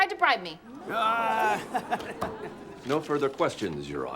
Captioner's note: audience groans